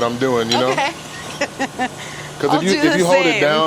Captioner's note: laughs